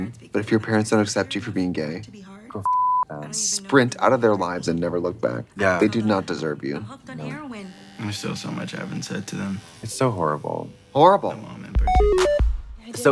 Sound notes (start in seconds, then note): 2.6 beep; 7.0 hair clippers buzzing; 11.8 bright electronic music